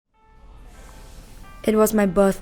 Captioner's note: cafe ambience